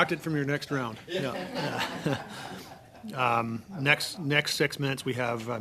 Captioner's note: laughter